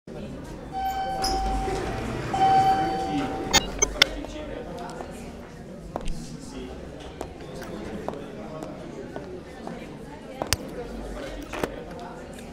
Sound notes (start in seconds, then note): 0.7 elevator dings